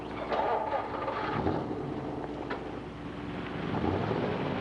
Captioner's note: engine revs